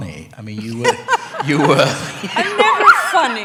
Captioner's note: laughter